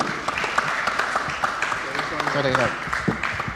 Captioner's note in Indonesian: tepuk tangan